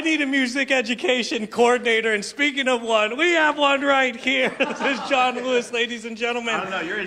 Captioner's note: laughter